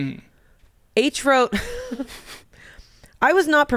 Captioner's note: laughs